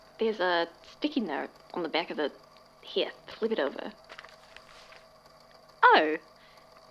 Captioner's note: paper rustling